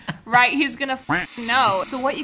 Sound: duck quacking

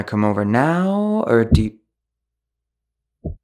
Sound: thud; thud-thud

